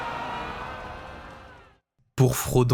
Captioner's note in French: acclamation